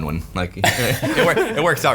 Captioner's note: laughing